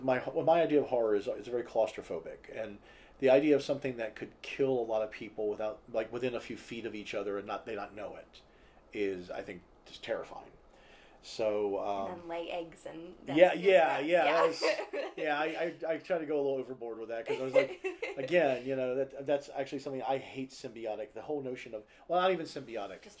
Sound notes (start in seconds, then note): 14.2 laughter